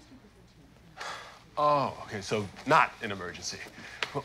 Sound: sighs

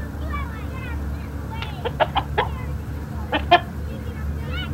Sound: rooster clucks

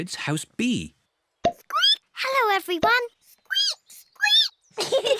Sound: squeaks; peppa and george giggling

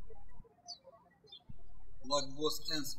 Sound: birds chirping

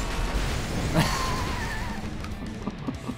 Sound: laughs

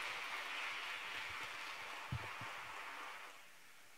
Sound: applause

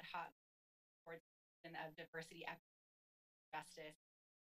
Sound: audio cuts

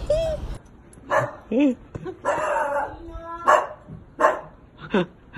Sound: dog barking; laughs

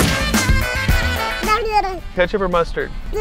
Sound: babbles

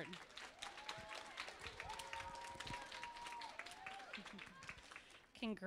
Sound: applause

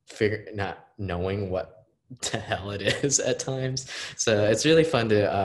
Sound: laughing

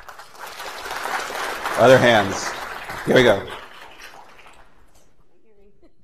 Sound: applause

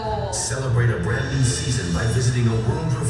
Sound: voiceover

